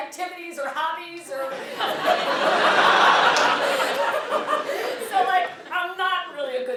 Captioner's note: laugh